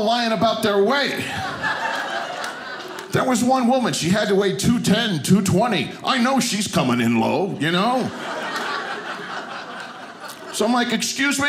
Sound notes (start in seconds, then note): 1.1 audience laughing; 7.6 audience laughing